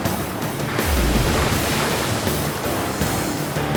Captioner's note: boat clatters